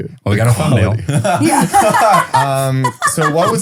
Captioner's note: laughs